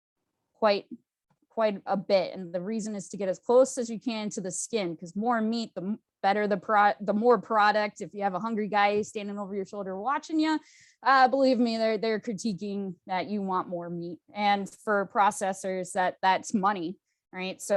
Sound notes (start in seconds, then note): none